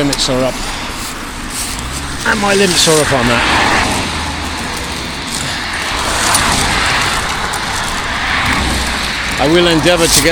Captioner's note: road noise